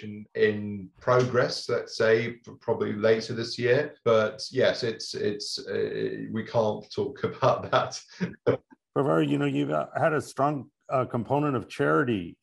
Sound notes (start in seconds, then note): 7.6 laughing